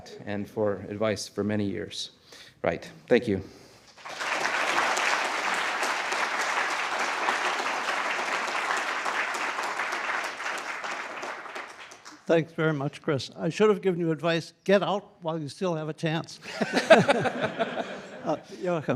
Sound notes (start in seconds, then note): 3.8 applause; 16.4 laughter